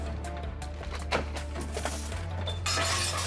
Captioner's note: tense music; objects clattering